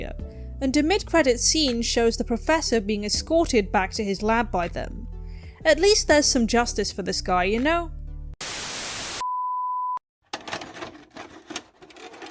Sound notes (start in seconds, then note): 8.4 static